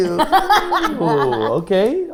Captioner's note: laughing